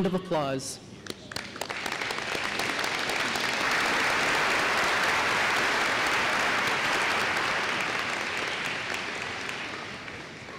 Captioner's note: applause